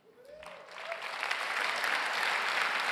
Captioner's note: applause